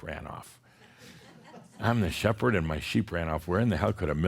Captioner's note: a few chuckles